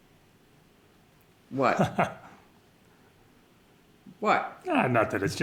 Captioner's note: ray chuckles